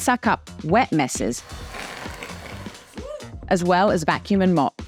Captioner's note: robot vacuum whirring; whooping